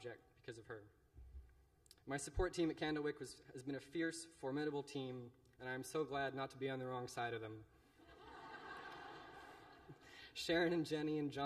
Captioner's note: laughter